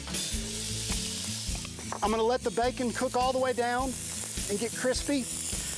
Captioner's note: pan sizzles